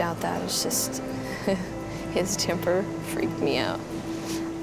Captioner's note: chuckles